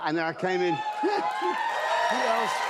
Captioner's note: cheers and applause